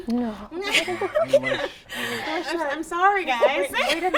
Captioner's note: laughs